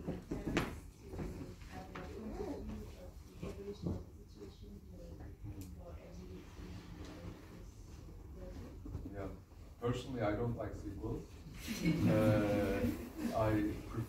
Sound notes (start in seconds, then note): 11.3 laughs